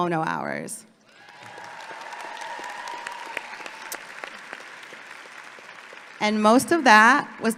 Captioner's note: audience clapping and cheering